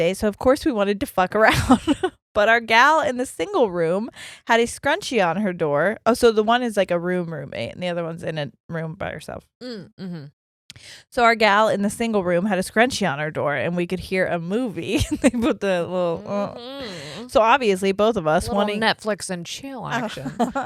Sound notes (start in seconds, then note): 16.5 groans quickly; 19.9 giggles quickly